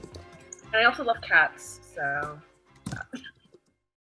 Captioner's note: laughs